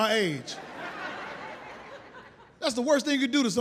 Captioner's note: audience laughs